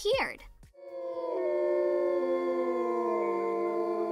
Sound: wolves howling

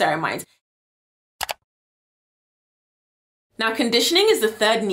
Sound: click

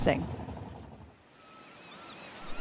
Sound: engine noises fade; seagulls; waves crashing

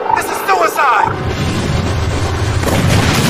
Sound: rocket launches

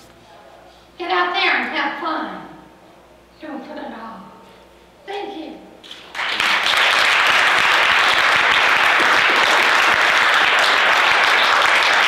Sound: applause

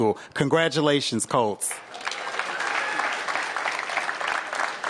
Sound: applause

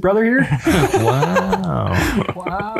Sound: chuckles

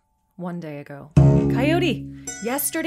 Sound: twang

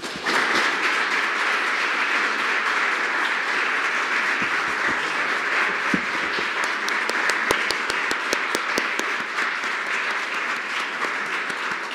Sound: applause

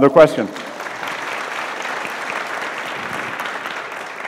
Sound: audience claps

